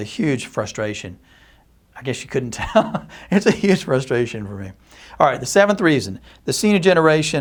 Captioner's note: chuckles